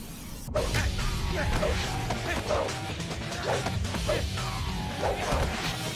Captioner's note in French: musique techno optimiste; tous deux grognent